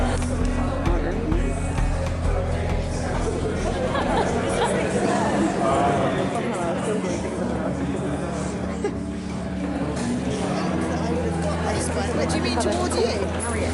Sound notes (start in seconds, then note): 0.2 background chatter; 3.5 laughter; 5.2 background chatter